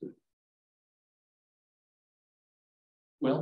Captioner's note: silence